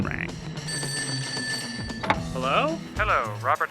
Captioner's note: phone rings